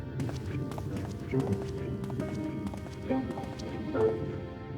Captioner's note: footsteps